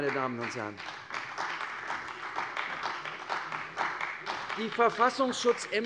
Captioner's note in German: Beifall bei der CDU und dem BÜNDNIS 90/DIE GRÜNEN